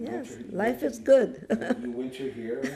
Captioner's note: laughing